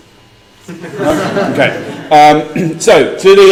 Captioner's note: laugh